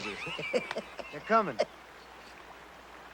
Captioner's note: Quint laughs